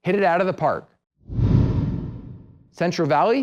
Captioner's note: swoosh